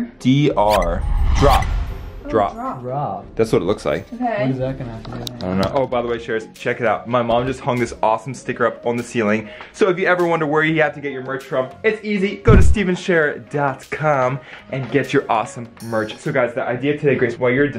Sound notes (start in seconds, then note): 4.5 faintly speaking